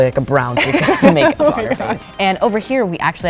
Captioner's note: laughing